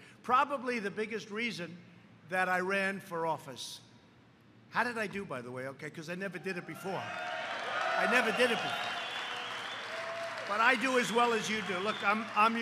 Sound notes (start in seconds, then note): 6.9 applause